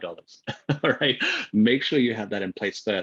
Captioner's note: laughs